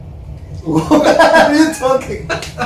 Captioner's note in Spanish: risas